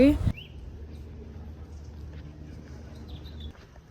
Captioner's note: birds chirping